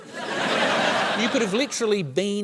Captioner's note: laughter